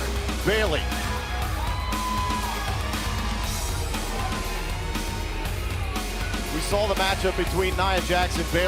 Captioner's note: crowd cheering